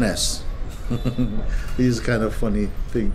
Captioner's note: Mooji chuckles